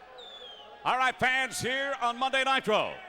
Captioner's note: crowd chatter